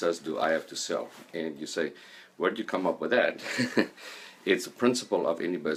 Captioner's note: laughing